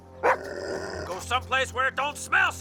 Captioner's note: Buck growling